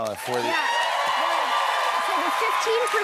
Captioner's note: cheers and applause